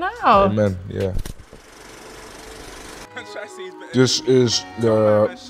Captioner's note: projector reel clicking